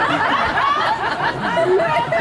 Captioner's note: audience laughs